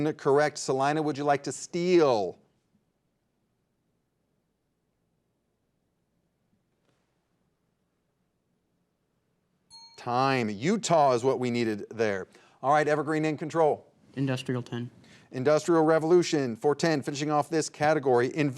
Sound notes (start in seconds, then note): 9.7 bell rings